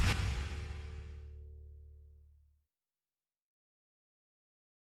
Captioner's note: whoosh